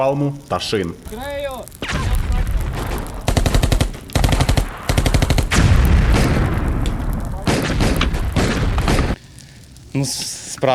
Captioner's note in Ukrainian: звуки пострілів